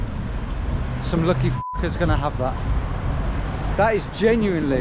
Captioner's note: beep